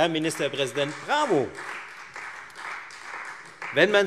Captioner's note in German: Beifall Freie Demokraten